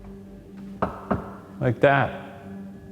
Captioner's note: knock thudding